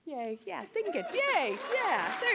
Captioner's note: applause